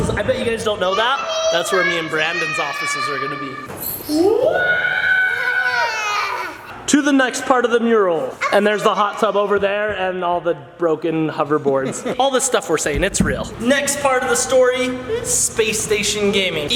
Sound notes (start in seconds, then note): 5.2 laughs